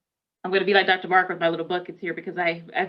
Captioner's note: none